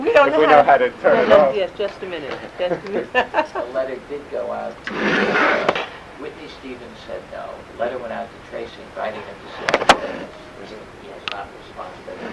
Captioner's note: laughs